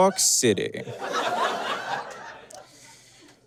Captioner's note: audience laughs